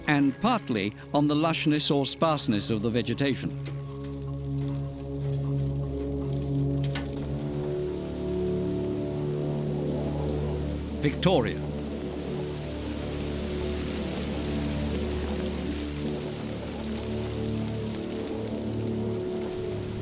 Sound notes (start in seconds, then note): 7.2 locusts hissing; 13.2 hissing intensifies